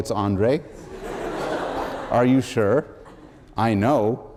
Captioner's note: laughter